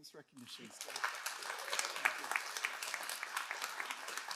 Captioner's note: all applauding